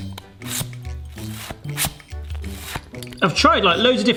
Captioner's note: sucker pulsing